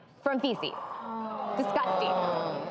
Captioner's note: disgusted gasps and groans